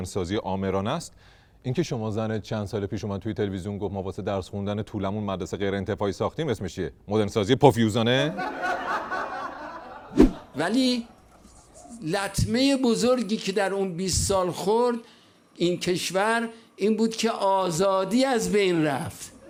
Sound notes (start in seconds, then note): 10.6 laughter; 10.6 mouse sound